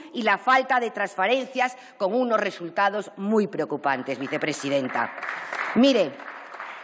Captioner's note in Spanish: Aplausos